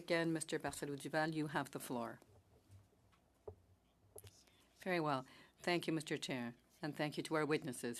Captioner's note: speaking French